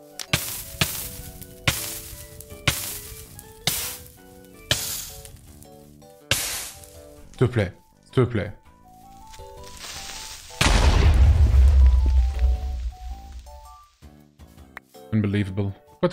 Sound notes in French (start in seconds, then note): 9.3 bruit de creeper; 10.6 explosion